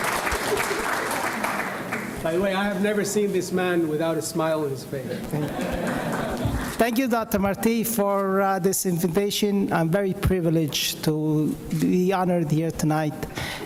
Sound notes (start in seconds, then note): 5.1 audience laughs